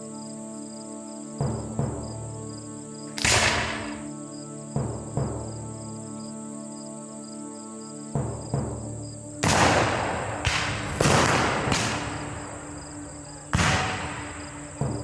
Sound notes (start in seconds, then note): 3.1 gun fires; 9.4 guns fire